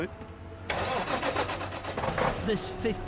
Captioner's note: truck engine revving